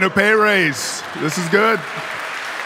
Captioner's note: audience applauding; audience laughing